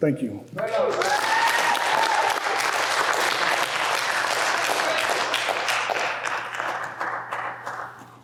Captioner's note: applause